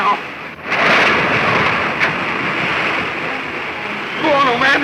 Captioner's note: rushing water